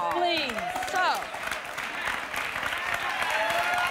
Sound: applause

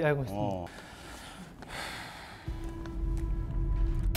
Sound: sigh

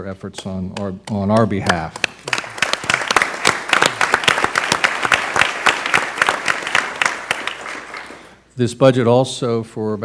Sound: applause

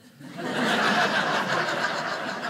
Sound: audience laughing

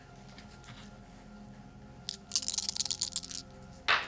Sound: dice rattling

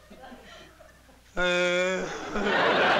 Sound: groans

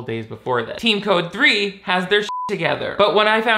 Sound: beep

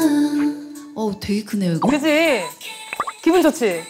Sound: the mic's echo

